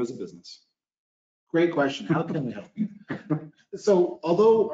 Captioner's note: laughs